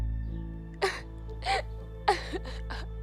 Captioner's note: crying